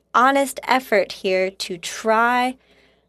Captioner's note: speaking French